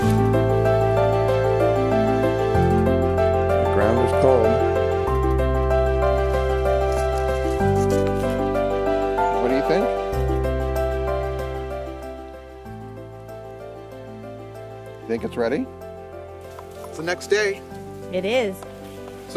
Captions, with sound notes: The ground is cold. (leaves crunch) What do you think? Think it's ready? It's the next day. - It is.